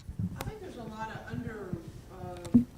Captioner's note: voiceover